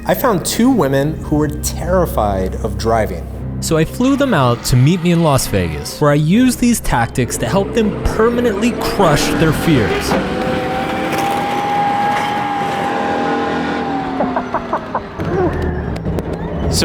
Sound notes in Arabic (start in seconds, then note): 4.0 هدير محرك السيارة; 10.1 تسريع محرك الدبابة; 14.2 يضحك